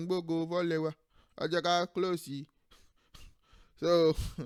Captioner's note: laughs